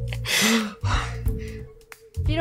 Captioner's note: breath